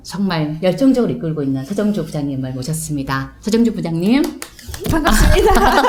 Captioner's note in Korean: 짝짝